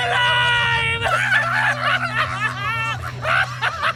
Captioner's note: laughter escalates